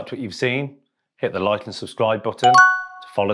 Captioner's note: bell rings